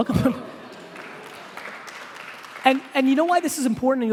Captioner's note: applauding